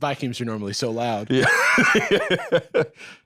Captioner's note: laughs